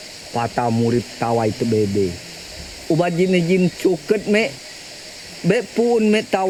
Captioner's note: speaking in foreign language